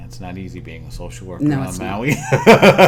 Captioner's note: laughter